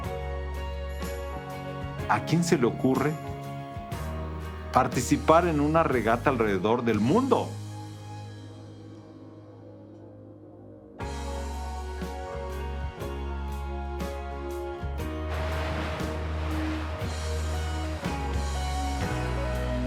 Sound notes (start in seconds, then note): 13.6 water lapping